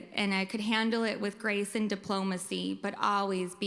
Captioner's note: none